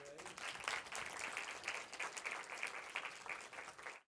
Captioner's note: applause